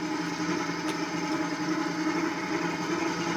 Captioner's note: continuous whirring